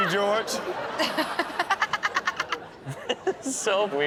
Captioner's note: Chanel laughs